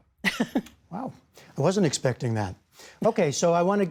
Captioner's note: laughter